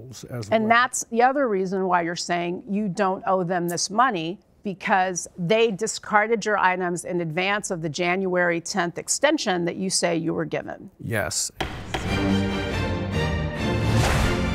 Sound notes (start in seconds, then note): 11.6 gavel pounding; 11.6 dramatic music